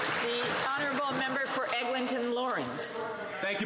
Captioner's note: some Applause